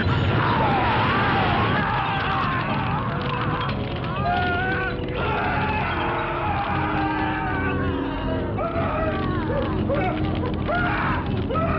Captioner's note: screaming